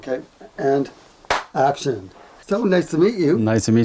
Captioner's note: hand claps